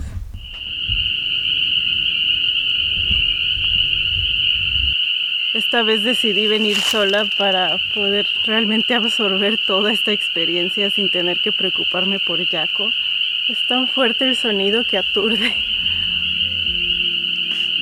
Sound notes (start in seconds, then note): 0.9 frogs singing